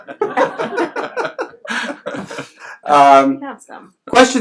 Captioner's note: laughs